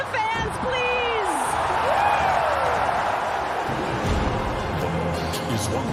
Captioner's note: crowd continues cheering